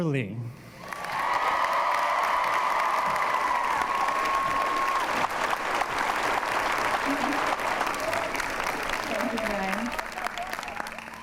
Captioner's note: applause